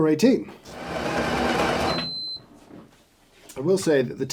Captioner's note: machine grinds and beeps